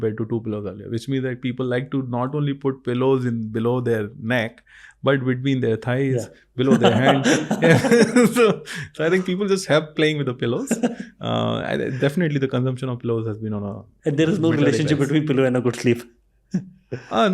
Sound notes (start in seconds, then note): 7.5 laughing